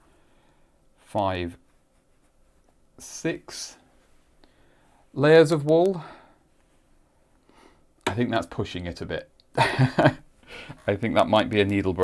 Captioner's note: chuckles